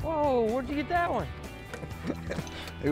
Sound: laughs

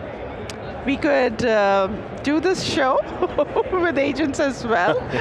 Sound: laughs

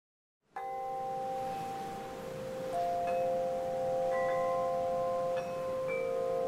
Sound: wind in trees; soothing wind chimes; ocean surf

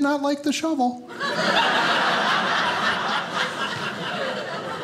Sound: audience laughing

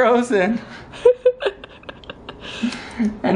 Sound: laughs

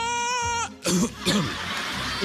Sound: coughs

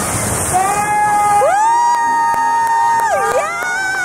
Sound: cheering and clapping

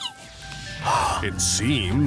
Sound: gasp!

